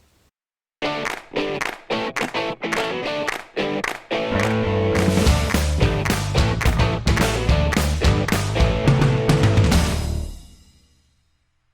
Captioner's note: claps